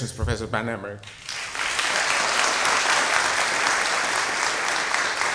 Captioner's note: applause